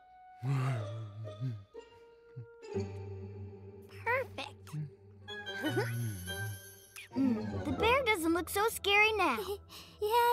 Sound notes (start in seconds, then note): 0.5 soft grunting; 5.6 chuckles